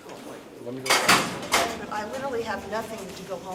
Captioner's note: clanking metal